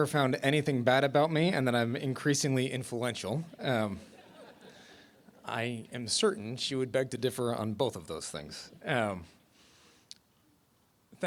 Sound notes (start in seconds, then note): 4.0 laughter